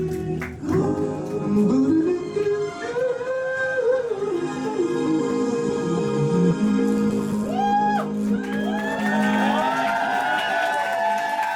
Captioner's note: applause